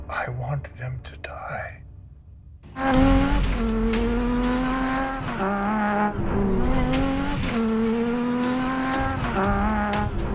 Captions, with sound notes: - I want them to die. (engine revving) (tense music)